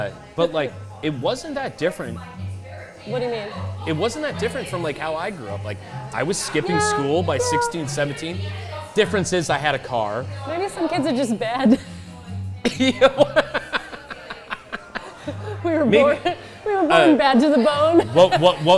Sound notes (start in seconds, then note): 12.6 laughs